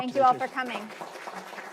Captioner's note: applause